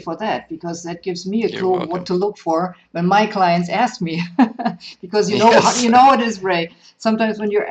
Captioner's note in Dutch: Lachen